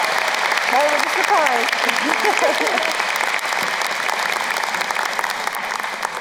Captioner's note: applause drowns out; laughs